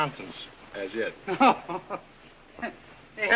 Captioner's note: laughs